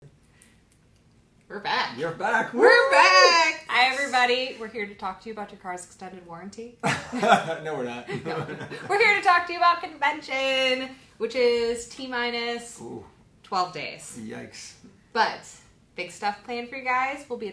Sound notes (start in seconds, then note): 8.0 laughing